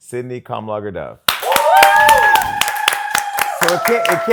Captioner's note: cheering